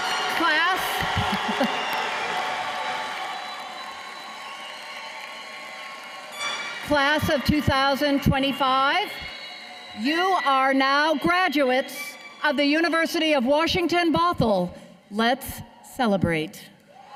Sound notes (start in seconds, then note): 4.5 cheers and applause